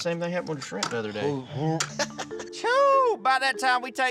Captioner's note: dry heaving; laughter